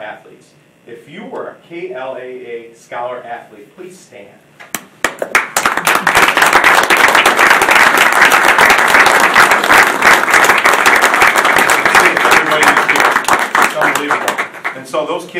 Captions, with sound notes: If you were a KLAA Scholar athlete, please stand. (audience applauding) (drowned bye applause)